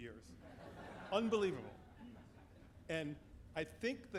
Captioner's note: audience laughing